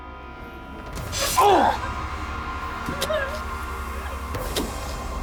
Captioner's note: Ortiz groaning